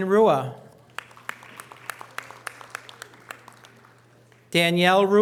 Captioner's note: audience applause